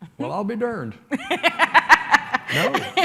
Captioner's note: laughs